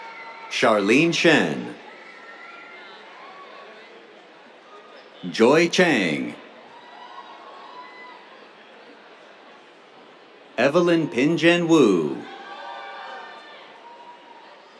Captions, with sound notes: Charline Shen. [CHEERS] Joy Chang. [CHEERS] Evelyn Pinjen Wu. [CHEERS]